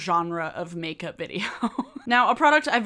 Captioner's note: giggles